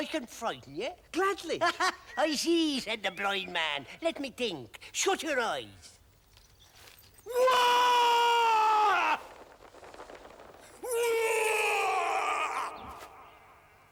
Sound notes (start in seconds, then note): 2.5 laughs; 7.2 screaming; 10.0 birds flapping; 10.7 screaming